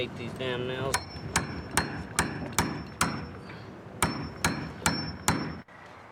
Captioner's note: hammer pounding